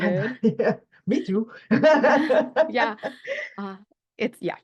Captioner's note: laughs